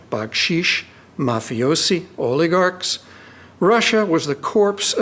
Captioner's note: speaking in foreign language